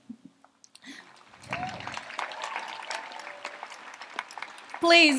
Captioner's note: audience applauds